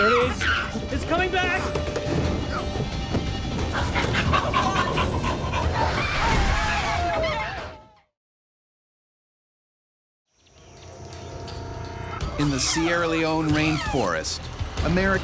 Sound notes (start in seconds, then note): 3.8 panting; 7.1 yelling; 12.8 voiceover